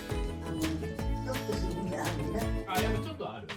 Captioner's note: laughs